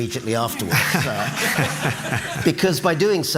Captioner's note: laughter